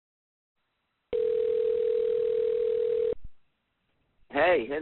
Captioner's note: phone ringing